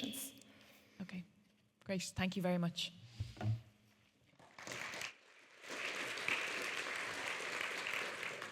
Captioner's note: clapping